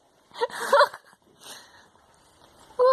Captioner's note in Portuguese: rindo